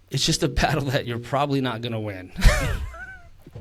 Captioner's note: chuckles